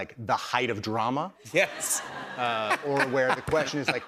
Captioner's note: laughter